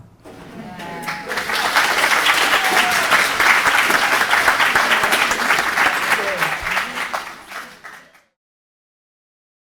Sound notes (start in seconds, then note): 0.2 audience applauding